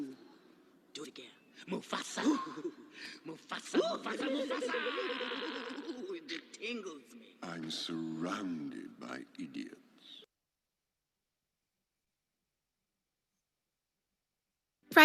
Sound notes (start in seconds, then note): 1.7 laughter